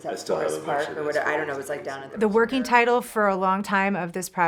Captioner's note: conversation